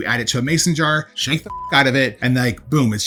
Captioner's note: beep